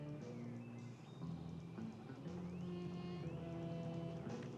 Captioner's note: jazz music playing; gravel crunching